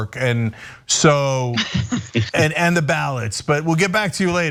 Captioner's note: laugh